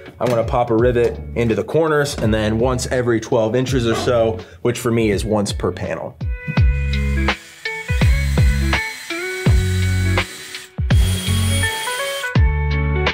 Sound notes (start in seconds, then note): 6.6 drill hums; 6.9 relaxed music